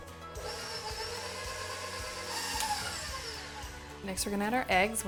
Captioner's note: mixer roaring